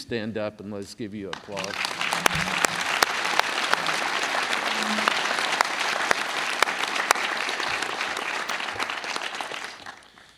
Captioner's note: applause